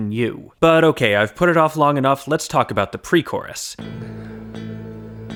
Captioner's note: bang